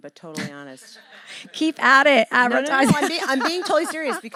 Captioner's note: laugh